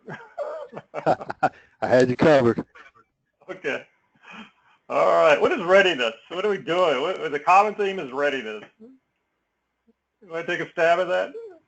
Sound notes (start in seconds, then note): 0.0 laugh